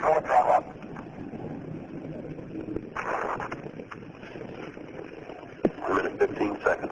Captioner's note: audio blurs